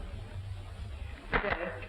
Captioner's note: clapping